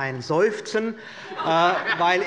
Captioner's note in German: Heiterkeit